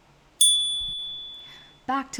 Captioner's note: chime